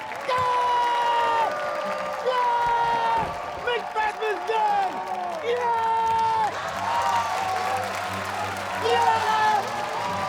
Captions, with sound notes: [SCREAMS] Yeah! Yeah, Macbeth is done! Yeah! [CHEERS, APPLAUSE] Yes!